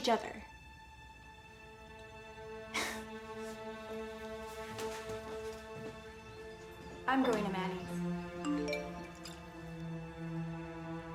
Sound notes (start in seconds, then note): 2.7 laughs; 7.8 phone beeps